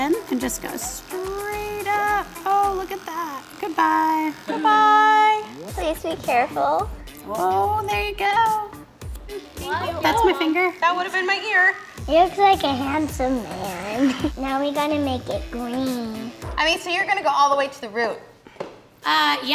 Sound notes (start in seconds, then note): 4.4 electronic music; 7.4 scissors clipping; 9.0 clippers vibrating